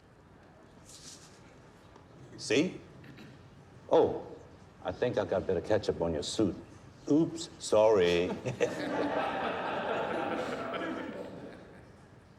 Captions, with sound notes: See? Oh, I think I got a bit of ketchup on your suit. Oops, sorry. [laughter]